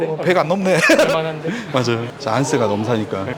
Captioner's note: laughs